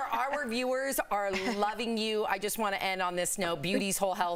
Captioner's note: laughter